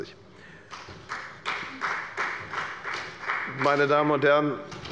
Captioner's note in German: Beifall bei der FDP